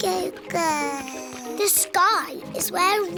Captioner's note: babbles